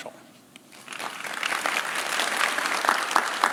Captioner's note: claps